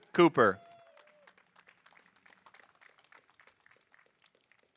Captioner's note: audience applauding